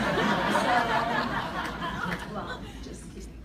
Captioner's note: laugh